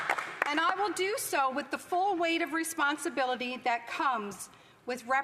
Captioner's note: applause